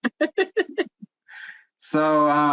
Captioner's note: laughs